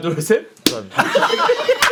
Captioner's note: slap